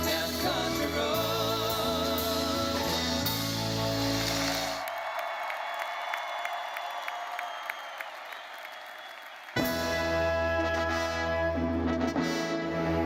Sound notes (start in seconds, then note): 3.7 attendees cheering and applauding; 9.6 triumphant music